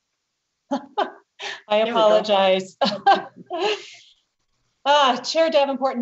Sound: giggles

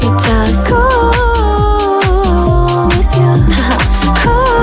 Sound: haha

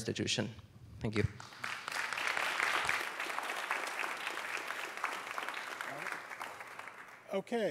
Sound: applause

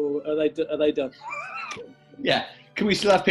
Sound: sniggering

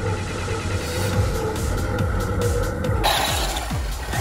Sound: engine rumbling; engine revving

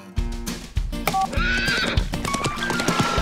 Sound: neighing

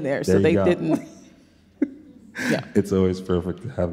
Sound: laughs

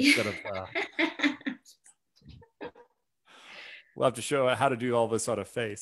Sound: chuckles

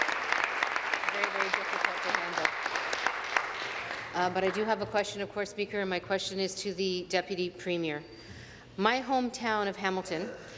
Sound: applause

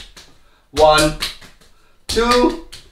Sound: slapping

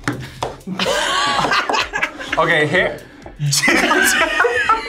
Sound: both laugh; laughs

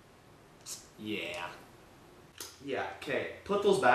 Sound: tsk

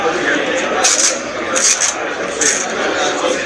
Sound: paper ripping noises

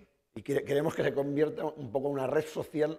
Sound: speaking spanish

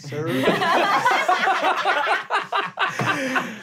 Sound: laughing

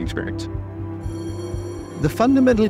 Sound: school bell rings

